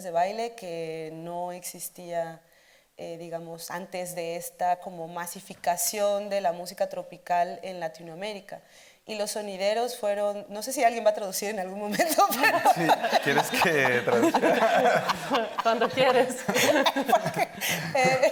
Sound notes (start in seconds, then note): 12.1 audience laughing; 13.2 speaking Spanish